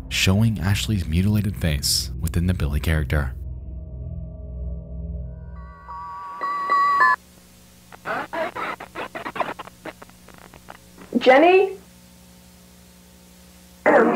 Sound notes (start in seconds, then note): 7.0 distorted audio artifacts